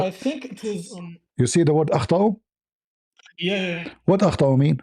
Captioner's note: Arabic